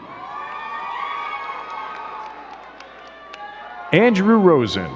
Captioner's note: crowd cheering and clapping